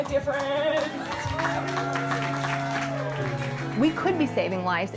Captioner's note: cheering